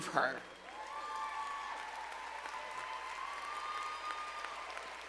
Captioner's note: audience applauds